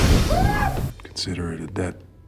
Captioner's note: intruder screaming